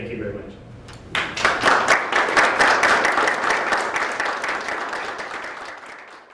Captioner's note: applause